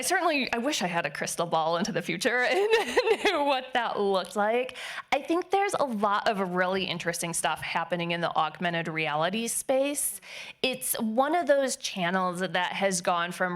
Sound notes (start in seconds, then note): 2.4 laughing